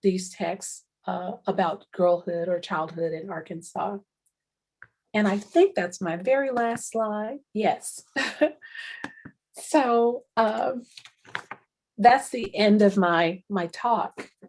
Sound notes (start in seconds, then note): 8.4 chuckles